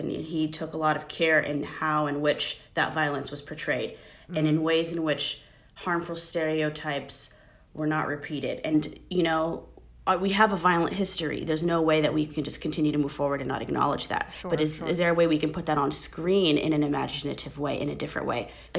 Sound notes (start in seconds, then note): none